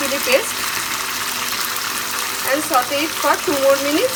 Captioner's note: sizzling sound of frying